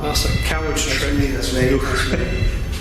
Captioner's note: beeping